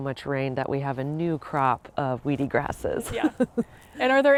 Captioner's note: laughs